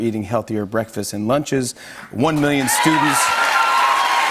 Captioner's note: cheers and applause